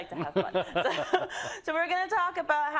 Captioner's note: laugh